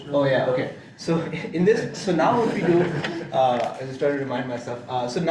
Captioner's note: laughing